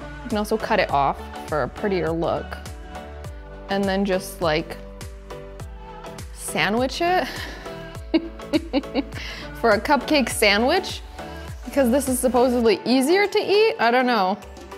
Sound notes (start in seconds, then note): 8.5 laughing